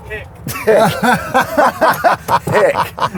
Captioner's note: laughs